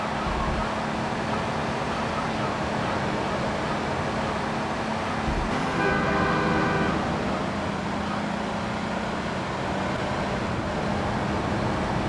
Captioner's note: muffled yelling